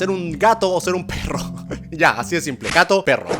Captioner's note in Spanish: ríe